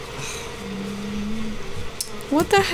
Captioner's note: cow moos disapproval